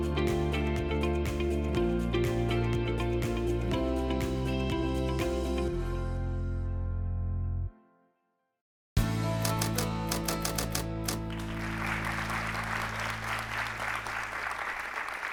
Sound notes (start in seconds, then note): 9.4 typewriter typing; 10.2 audience clapping